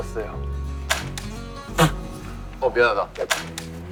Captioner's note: laughing!